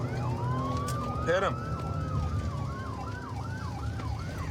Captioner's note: sirens wailing